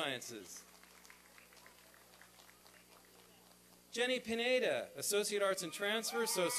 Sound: applause

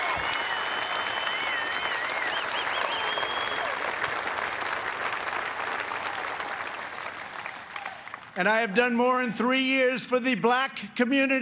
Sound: cheers and applause

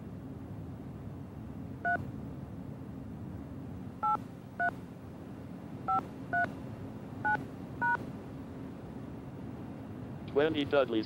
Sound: touch tone

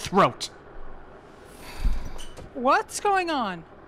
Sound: door opening

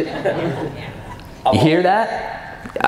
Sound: audience laughs

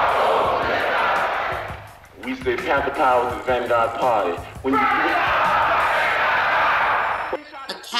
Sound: indescribable yelling & shouting

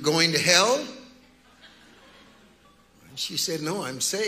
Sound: congregants laughing

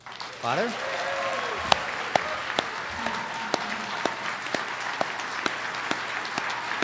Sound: audience applauds

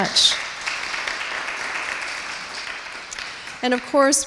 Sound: applause

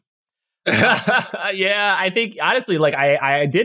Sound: laugh

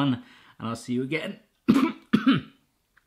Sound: coughs

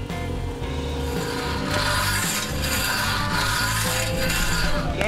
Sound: rake scrapes

